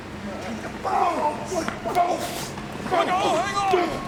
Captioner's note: wrestlers grunting